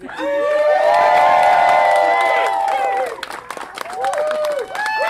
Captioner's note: cheering